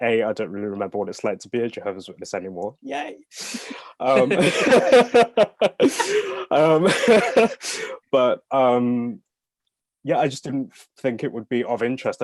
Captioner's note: all laugh